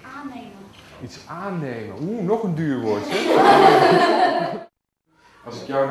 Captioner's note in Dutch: gelach